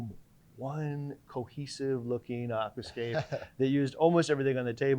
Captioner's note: laughing